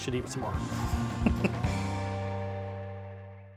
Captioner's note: chuckles